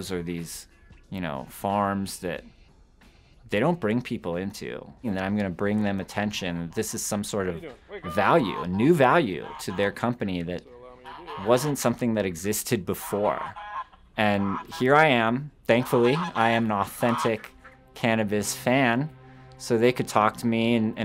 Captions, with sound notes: or these farms that they don't bring people into. You know, I'm gonna bring them attention. This is some sort of value new value to their company, that wasn't something that existed before. And here I am, thankfully, (ducks quacking) I am an authentic cannabis fan, so they could talk to me (intense music)